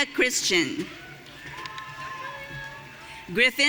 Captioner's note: audience cheering